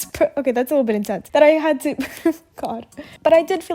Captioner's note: giggles; laughs